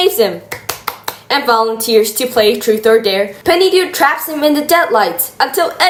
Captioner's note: claps